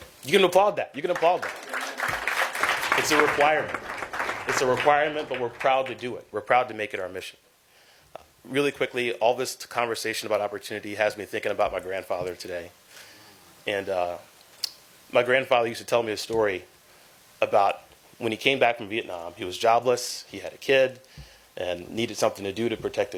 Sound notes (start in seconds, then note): 3.4 applause